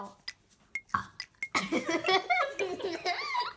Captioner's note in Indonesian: burp